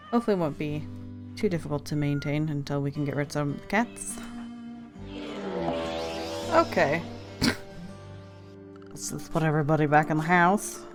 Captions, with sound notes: Hopefully it won't be too difficult to maintain until we can get rid some cats. Okay *snorts* Let's put everybody back in the house.